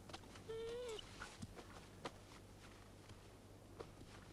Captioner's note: Beast whines